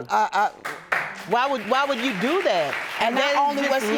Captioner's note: audience applauding